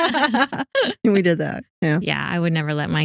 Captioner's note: both Laughing